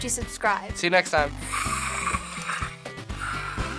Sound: snarling softly; old-school video game music

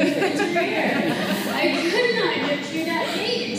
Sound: laughter

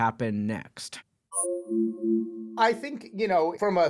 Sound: beeping

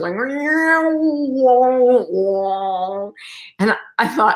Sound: mimics spacey sound effects

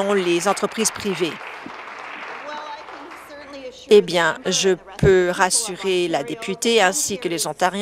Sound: applause

